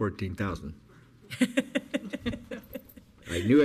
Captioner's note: woman laughs